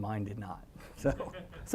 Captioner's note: laugh